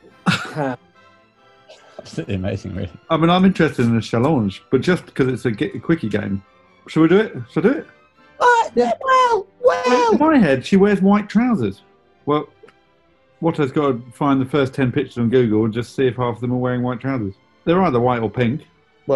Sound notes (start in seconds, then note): 0.2 laughs; 8.3 high pitched